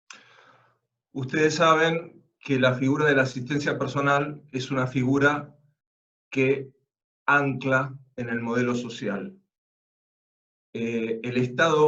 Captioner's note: Spanish